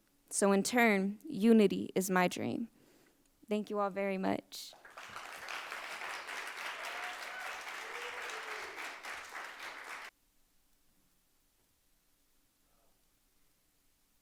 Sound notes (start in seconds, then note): 4.7 audience applauds